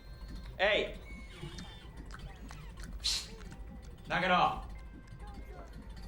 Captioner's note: lens focusing; cat licking